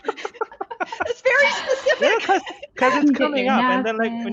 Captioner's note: laughing